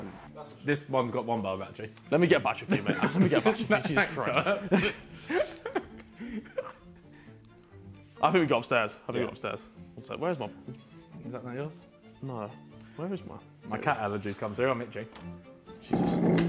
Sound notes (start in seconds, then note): 5.1 laughs